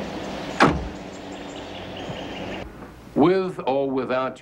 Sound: car door slams

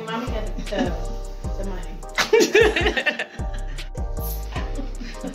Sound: laughs

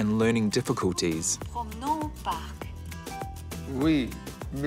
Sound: computer voice speaks french

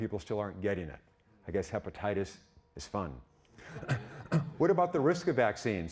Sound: audience laughing

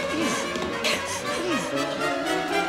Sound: none

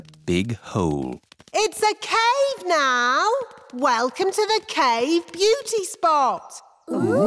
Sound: echoing

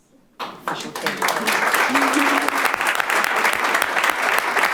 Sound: audience applauding

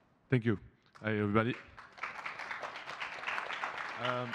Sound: applause

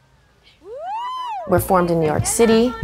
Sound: cheering

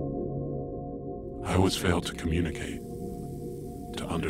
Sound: low Voice

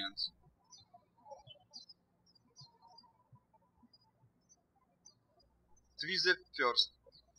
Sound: birds chirping

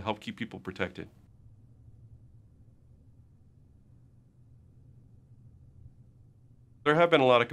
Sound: silence

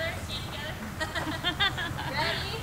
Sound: laughing

